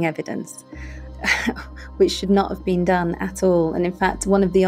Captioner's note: scoffs